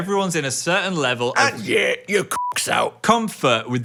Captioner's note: beep